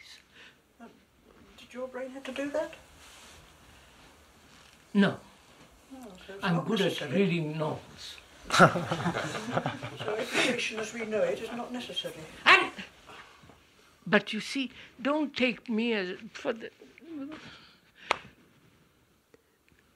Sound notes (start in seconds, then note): 11.4 laughter